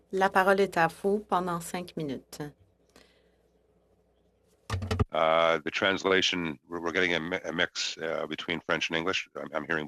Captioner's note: speaking French